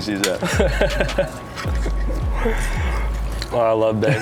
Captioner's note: Nyjah laughs